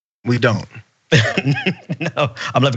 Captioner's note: laugh